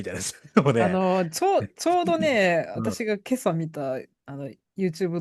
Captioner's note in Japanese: 笑い